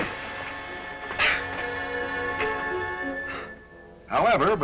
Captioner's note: gasping